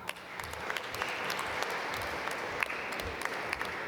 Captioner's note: applause